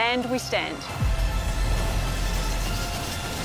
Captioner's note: majestic music; pen scratches